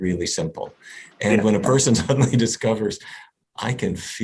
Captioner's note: laughs